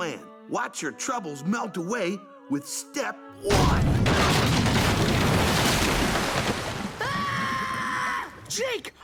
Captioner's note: Finn Screaming In Terror